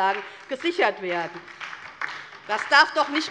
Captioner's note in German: Beifall DIE LINKE und SPD